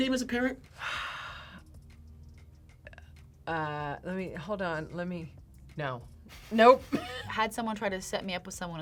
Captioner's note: sighs; laughs